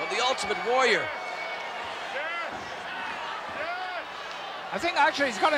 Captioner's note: applause